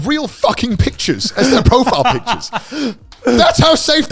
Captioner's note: laughing